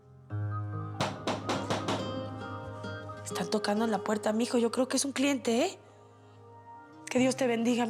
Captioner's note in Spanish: Toques en la puerta